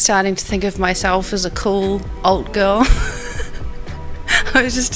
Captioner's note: laughs